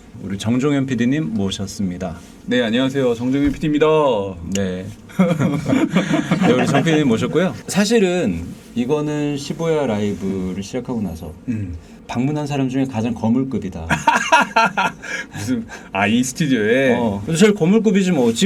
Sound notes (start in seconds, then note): 13.9 laughing